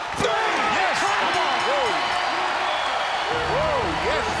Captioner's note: crowd cheering